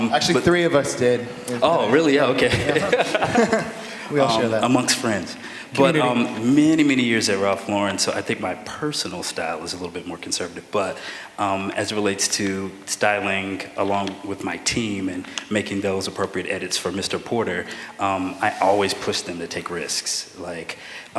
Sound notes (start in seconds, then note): 2.4 laughter